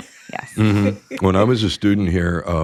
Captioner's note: laughs